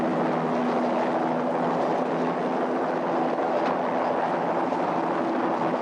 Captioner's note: helicopter whirring continues